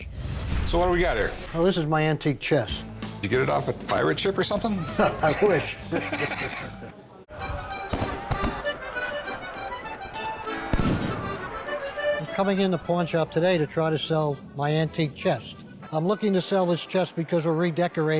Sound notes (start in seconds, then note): 4.6 laugh; 7.8 cannons firing